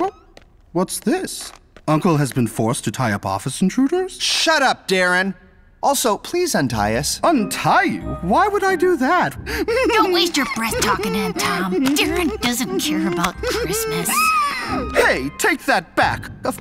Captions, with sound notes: Oh, what's this? Uncle has been forced to tie up office intruders? Shut up, Darren! Also, please untie us. Untie you? Why would I do that? [laughs] Don't waste your breath talking to him. Darren doesn't care about Christmas. Hey, take that back!